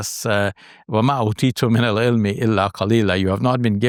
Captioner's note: speaks in foreign language